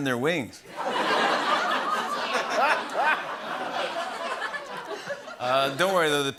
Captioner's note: laughter